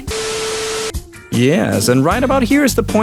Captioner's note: static noise